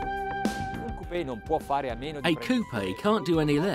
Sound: upbeat music; speaking in foreign language

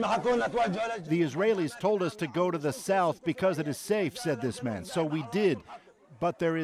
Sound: speaking alternate language

